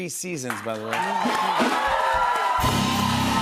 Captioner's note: cheers and applause